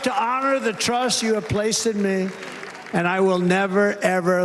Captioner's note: cheers and applause